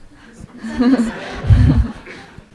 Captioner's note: audience/Questioner laughter